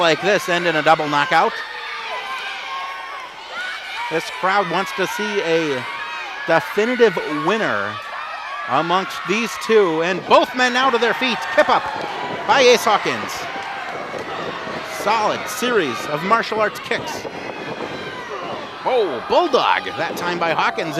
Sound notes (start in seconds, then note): 2.3 yelling; 18.2 groans